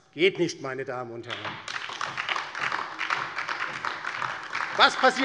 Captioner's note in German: Beifall DIE LINKE